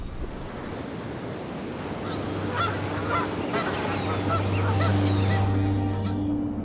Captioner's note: waves crashing; birds squawking